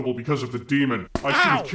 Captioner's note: bonk